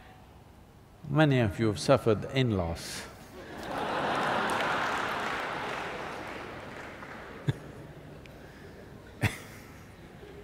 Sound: laughter/Applause

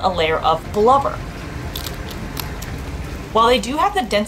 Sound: background music; cracking noise from otter eating crab

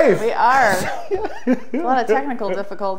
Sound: laughs

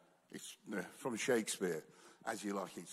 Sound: none

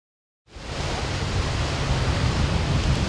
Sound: ocean waves

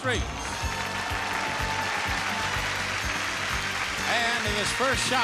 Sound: audience applauding

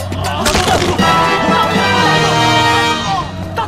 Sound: fall damage

